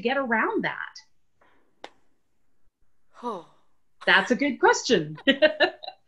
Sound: laughter

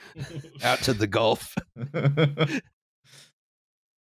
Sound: laughter

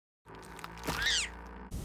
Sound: bridge creaking; butterfly screaming

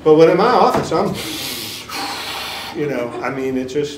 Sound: sniffs hard and blows

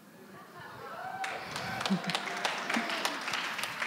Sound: applause

